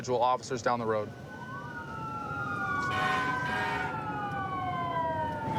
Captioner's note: emt sirens blaring